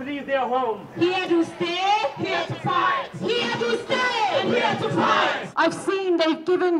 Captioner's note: chant